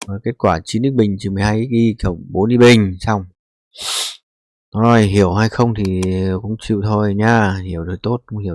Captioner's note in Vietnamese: khịt mũi